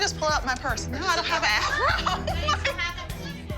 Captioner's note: laughing